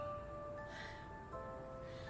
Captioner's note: sighs